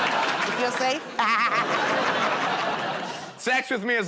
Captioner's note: laughs